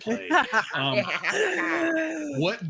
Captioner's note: actors laughing